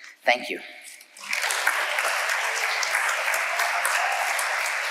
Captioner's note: audience applauding